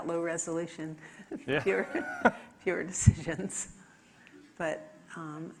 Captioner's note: laughs